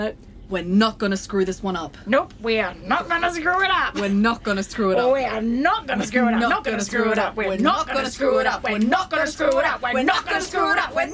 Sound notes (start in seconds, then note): 5.7 they build into a chant; 10.9 The roar of the Starship engine as it flies off to planet PAN-T5